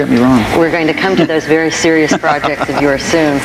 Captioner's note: Frank laughs